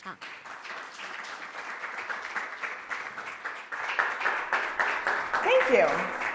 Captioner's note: applause